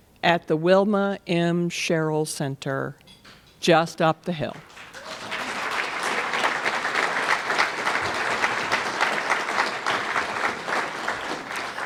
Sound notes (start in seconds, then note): 4.5 applause